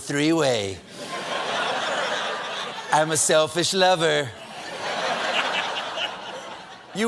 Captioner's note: laughter